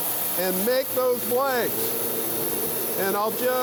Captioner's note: bandsaw buzzing